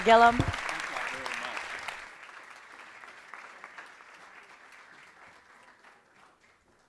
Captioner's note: applause